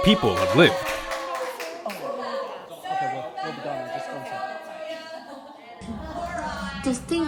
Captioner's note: actors clapping